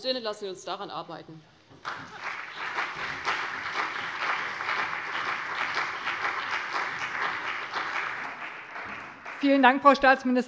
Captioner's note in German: Beifall CDU und BÜNDNIS 90/DIE GRÜNEN